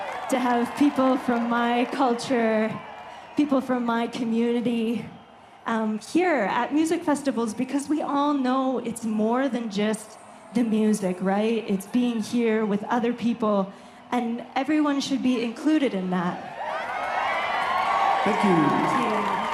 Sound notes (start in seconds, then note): 16.7 cheering